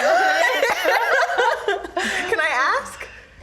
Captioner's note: group laughs